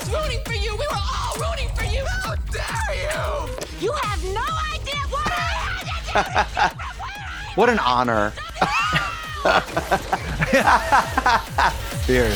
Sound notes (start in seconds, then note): 5.8 Trixie chuckles